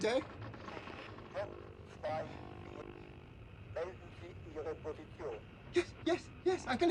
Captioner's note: man speaking in foreign language